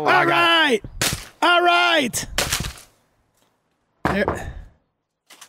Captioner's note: wood breaking; brick hitting the ground